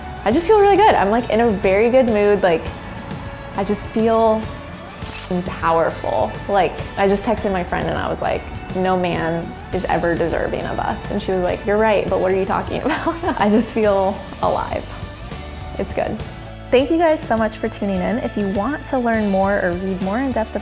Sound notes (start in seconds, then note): 5.0 shutter clicks; 12.9 laughs